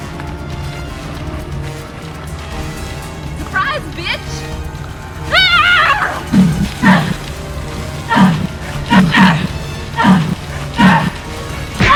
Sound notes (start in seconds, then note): 6.8 Kody yells; 6.9 blade whooshing; 7.7 Kody grunting; 11.7 bat thuds